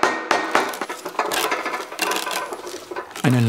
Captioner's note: rumbling